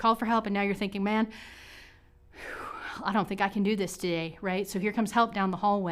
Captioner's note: exhales